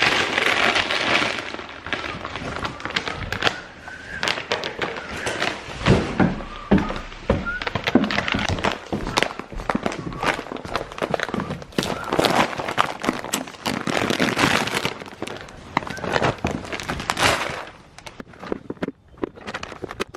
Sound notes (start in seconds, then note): 0.1 crumpling bag noises; 5.6 crumpling and footsteps on wood; 17.9 plastic scraping and food pelting